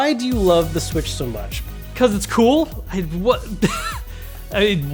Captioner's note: laughs